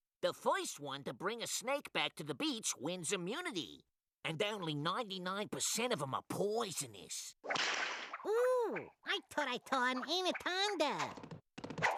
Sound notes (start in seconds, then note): 7.4 whip cracking; 11.7 choking